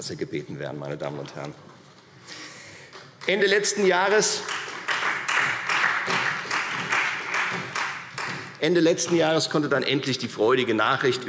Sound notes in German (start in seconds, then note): 4.0 Beifall Freie Demokraten und vereinzelt SPD